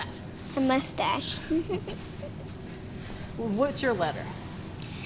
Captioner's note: giggling